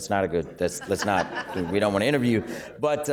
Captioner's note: laughter